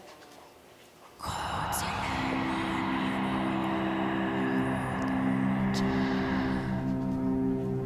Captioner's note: raspy whispering in foreign language